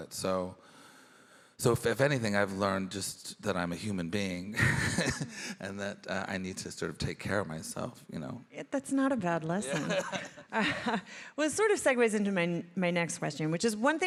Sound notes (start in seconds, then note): 4.5 chuckles; 9.6 laughing